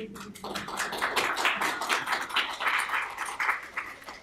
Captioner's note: applause